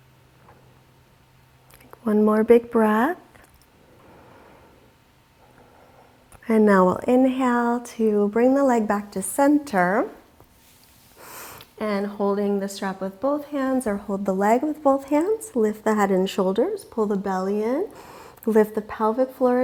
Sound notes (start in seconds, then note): 3.8 deeply inhaling